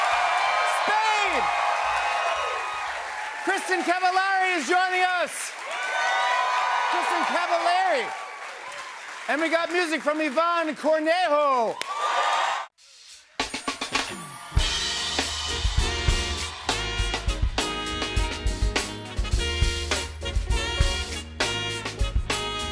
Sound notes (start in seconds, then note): 0.1 cheers and applause; 5.6 cheers and applause